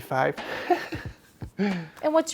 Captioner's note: laughs